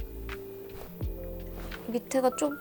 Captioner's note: swoosh!